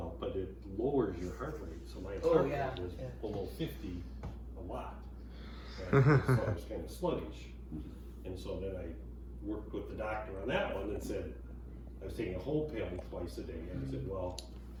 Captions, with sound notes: -Well, but it lowers your heart rate. -Oh, yeah. -Almost 50, a lot. -[chuckles] And so, then, I work, put the doctor on that one, then, it said, "I was taking a whole pill in twice a day" and it said, "well,